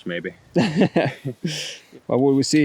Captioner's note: laughing